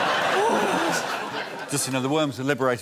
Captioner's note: laughter; exhales